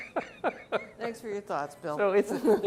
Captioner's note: laughing